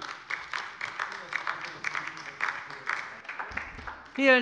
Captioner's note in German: Beifall bei der LINKEN